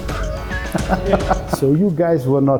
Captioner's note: laugh